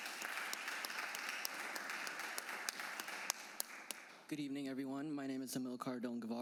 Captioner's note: applause